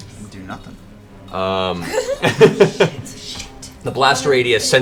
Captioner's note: others laugh